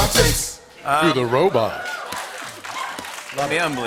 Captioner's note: applause